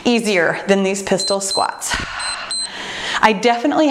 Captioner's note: timer beeps